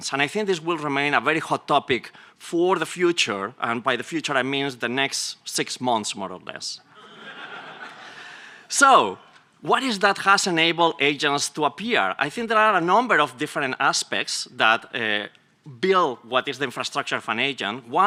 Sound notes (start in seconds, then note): 6.9 laughter